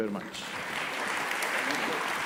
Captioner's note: applause